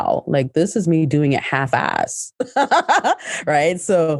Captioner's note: laughs